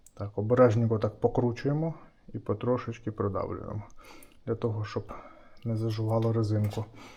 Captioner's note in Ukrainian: сопіння